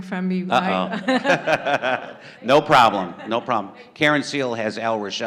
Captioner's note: laughter